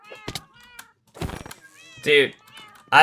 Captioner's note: crying